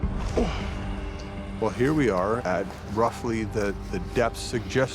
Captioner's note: grunts